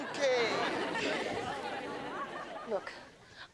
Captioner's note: audience laughs